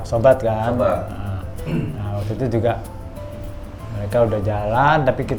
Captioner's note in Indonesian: berdehem